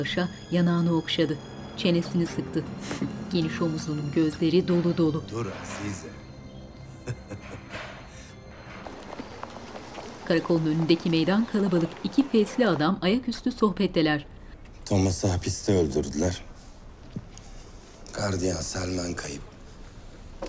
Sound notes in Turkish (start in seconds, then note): 0.1 Müzik - Gerilim; 6.7 Müzik - Gerilim; 6.9 Esat gülme sesi